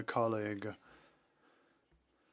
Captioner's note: speaking FRENCH